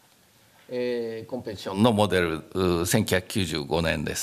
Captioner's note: speaking japanese